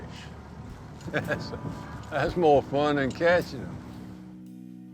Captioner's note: chuckling